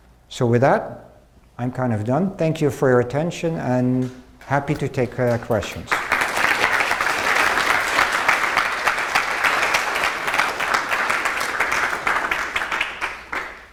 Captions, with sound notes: So, with that, I'm kind of done. Thank you for your attention, and happy to take questions. (attendees applaud)